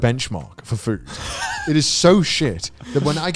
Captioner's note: laughing